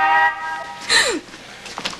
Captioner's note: car horn honking